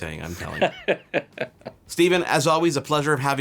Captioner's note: laughing; laughs